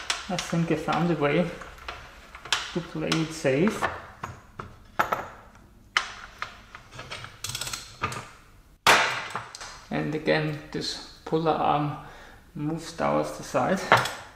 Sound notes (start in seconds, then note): 8.8 bang